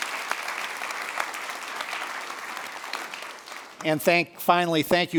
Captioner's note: applause